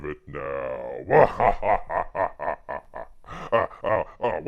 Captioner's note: laughs